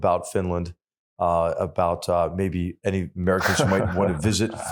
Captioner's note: laugh